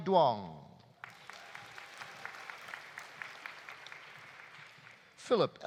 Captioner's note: audience applauding